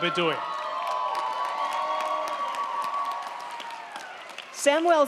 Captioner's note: crowd cheering; crowd clapping